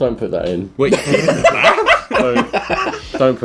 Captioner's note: laughing